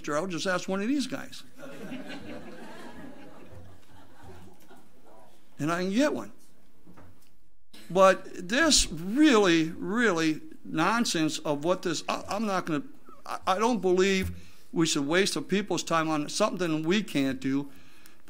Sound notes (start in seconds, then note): 1.6 audience laughs